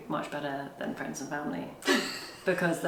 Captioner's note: laughs